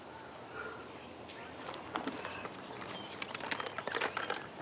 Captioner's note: birds chirping